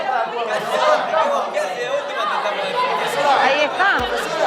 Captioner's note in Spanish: Bullicio